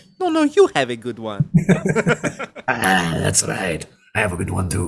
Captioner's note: both laugh; as Mario